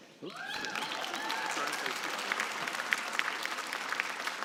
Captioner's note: cheering and applause